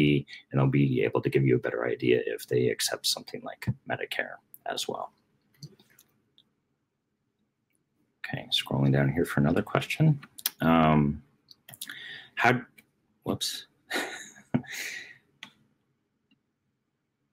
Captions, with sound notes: and'll be able to give you a better idea if they accept something like Medicare as well. Okay, scrolling down here for another question. How-- whoops. (laughing)